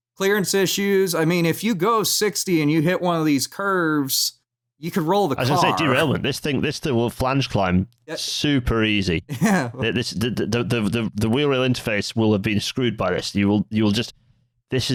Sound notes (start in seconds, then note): 9.3 laughs